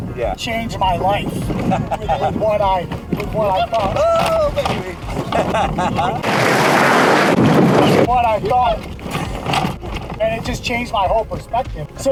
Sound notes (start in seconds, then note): 1.5 laughs; 4.0 truck rumbles; 5.0 laughs; 6.7 tires screech; 7.6 truck rumbles